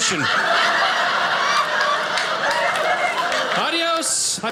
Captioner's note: audience laughing